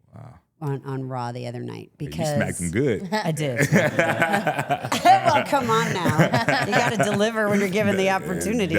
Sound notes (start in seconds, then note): 3.6 chuckling; 3.6 participant chuckling; 3.6 Trick chuckling; 6.4 participant chuckling